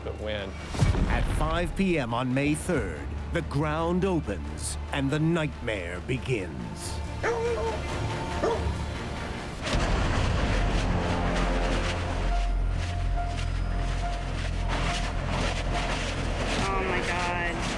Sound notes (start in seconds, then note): 7.2 barking; 9.6 bang echoes